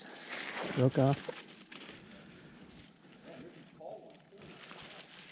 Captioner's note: group member chattering